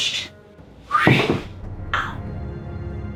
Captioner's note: phew